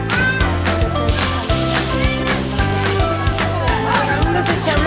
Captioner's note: sizzling skillet sounds